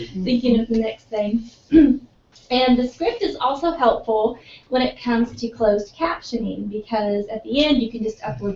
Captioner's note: laugh; cough